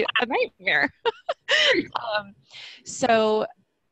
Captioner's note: laughing